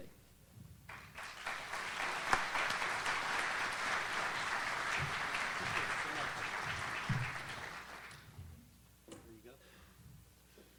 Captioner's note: audience applauds